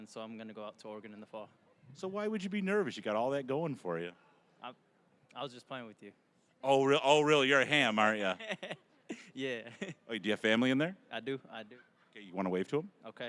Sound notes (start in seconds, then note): 8.1 laughing